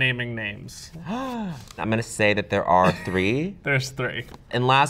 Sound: gasps

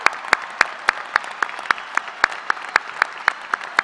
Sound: applause

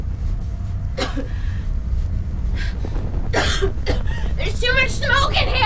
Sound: Kelly coughing

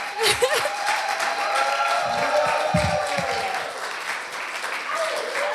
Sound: cheering

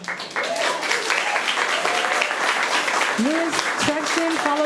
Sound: audience clapping

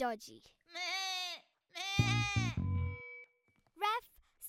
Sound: upset bleatinG

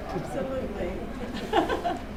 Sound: chuckles

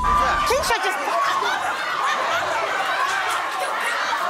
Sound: dramatic music; crowd yelling

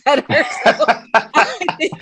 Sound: laughing

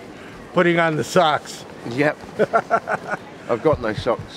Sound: laughs

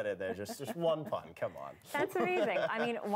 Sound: laughter

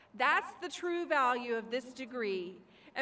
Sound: none

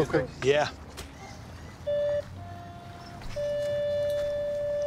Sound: beeping

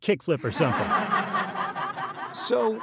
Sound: audience laughing

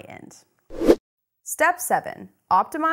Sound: air rushes

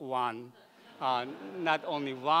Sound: laughing

